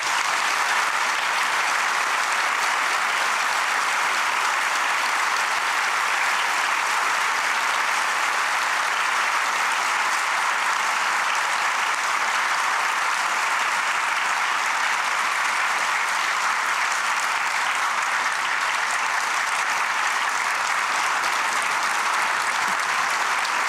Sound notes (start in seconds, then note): 5.2 applause